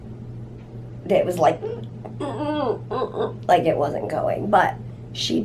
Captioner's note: grunting noise